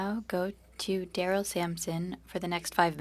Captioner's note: speaking French